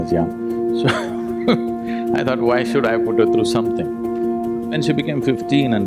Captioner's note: laughs